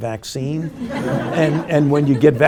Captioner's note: group laughing